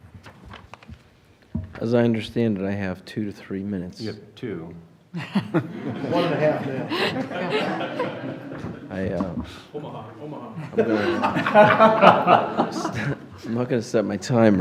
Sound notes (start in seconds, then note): 5.1 laughter; 10.5 laughter